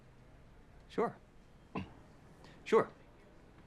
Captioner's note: clears throat